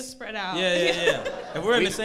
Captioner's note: crowd laughs